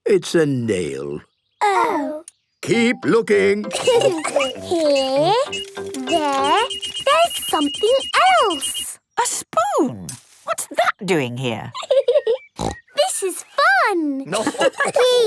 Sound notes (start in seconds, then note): 3.7 laughter; 6.7 beeping; 14.2 giggling and snorting; 14.2 laughter